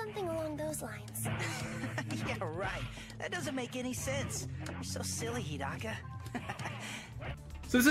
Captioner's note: laughter